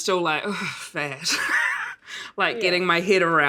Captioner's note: laughs